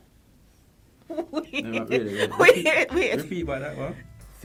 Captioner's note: laughing